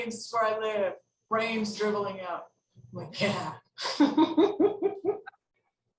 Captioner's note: laughs